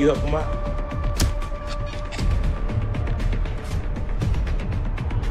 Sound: punch thudding

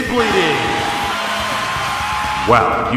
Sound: crowd cheering

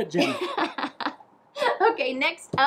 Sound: laughing

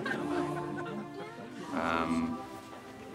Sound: group chattering

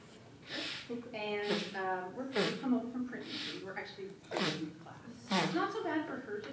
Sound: audience member blows nose

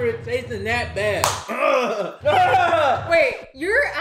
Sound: claps; groaning disgustedly

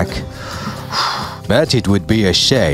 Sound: sigh

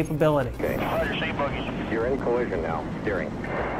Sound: radio chatter

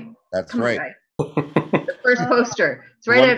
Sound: chuckling

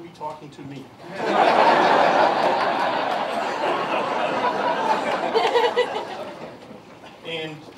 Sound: laughter

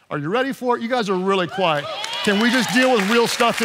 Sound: congregation cheering

